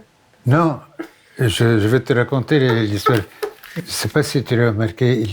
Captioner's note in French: Elle rit